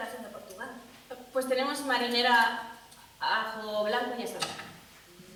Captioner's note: Spanish